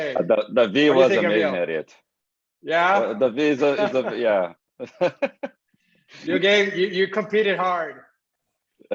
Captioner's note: laugh